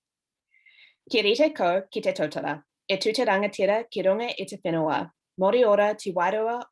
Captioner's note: speaking in foreign language